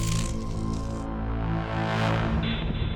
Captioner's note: power down